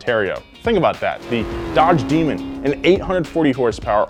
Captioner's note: engine zooms